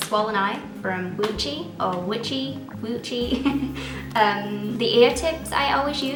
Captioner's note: pronouncing it differently each time